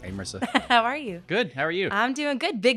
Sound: laughing

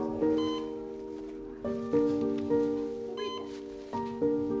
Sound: machine beeping

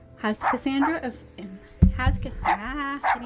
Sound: dog barking sfx; mic thumps, bounces; mic distorts; mic rolling; dog barking sfx

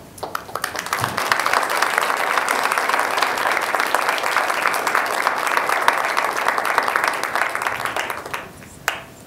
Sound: applause

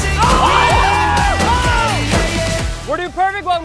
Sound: screaming

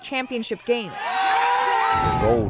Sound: cheering

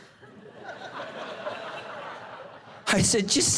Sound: congregation laughing

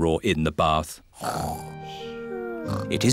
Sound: snoring

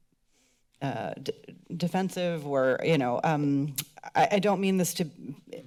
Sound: click tongue

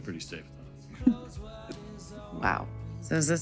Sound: chuckles

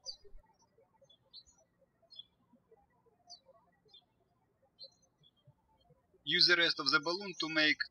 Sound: birds chirping

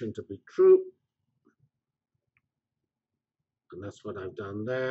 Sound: pause

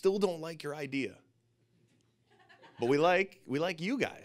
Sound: audience laughing

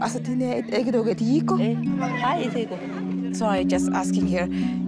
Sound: speaking foreign language

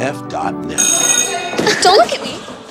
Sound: bell ringing

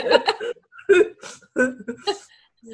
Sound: laughter

